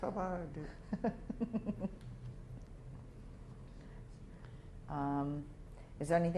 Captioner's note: laughter